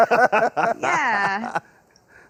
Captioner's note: both Laugh